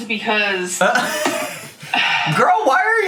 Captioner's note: laughs